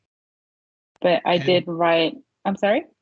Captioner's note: chuckling